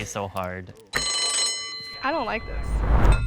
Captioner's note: alarm rings